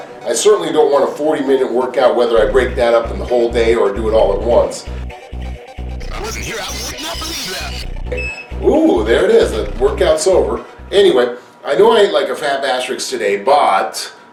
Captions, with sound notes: I certainly don't want a 40 minute workout whether I break that up in the whole day or do it all at once (background music) if i wasn't here i would not believe that (beep) whoa there it is. workout's over anyway I know i ate like a fat bastrix today but